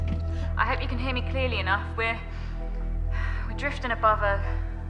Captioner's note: breathes deeply